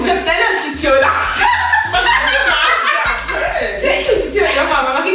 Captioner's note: laughing